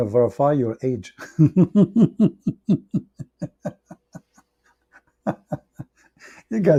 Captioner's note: Ketawa